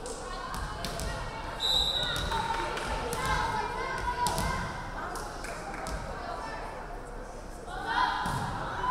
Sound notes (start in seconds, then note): 1.6 referee whistling